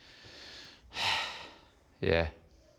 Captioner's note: sighs